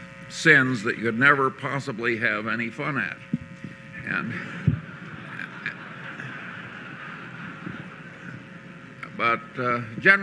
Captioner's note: laughter